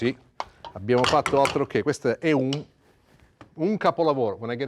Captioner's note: speaking Italian